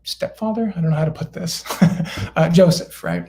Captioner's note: laughter